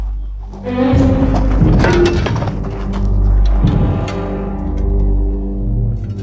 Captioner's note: intense music; shovel clacks